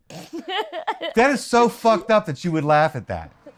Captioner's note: laughter